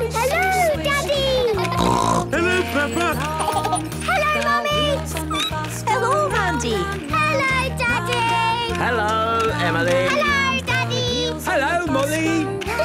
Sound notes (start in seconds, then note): 1.6 snorting; 2.4 laughter; 5.0 squeaking